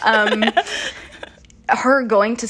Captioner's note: laughter